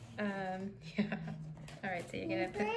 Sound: laugh

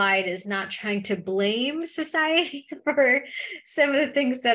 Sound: laughter

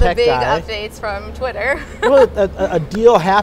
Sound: laughs

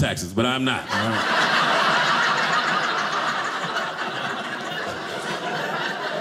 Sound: audience laughing

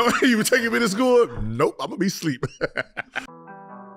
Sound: Gilbert laughing

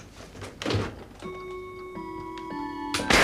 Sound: clock chiming; gunshot bangs

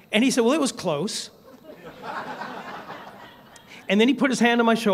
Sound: laughter

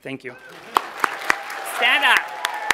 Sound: applause

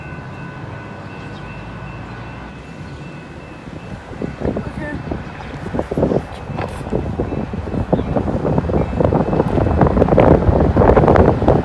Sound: more wind

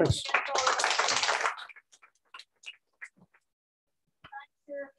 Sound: applause

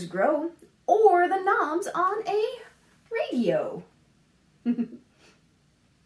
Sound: laughs

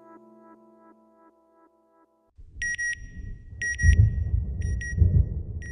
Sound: beeping sound, thunder

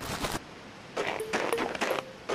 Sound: footsteps

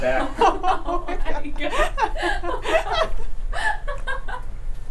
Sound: the group laughs

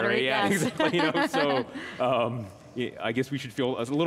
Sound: laughing

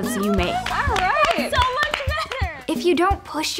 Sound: clapping

